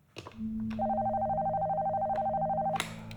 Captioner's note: ring tone